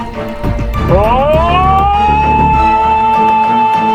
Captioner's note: yelling